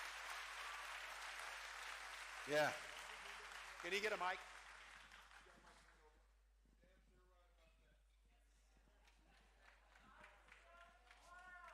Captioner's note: cheering